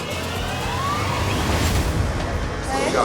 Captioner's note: door buzzes